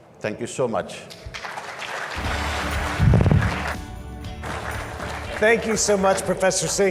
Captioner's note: audience claps; upbeat music